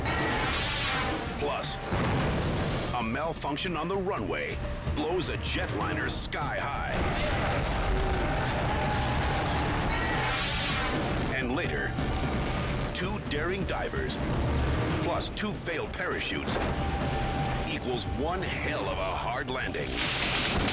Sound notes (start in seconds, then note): 6.9 jet explodes